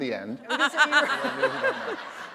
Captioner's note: laughter